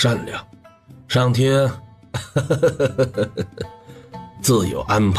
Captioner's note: laughter